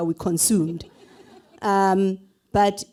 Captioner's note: laughter